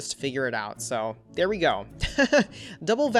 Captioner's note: laughs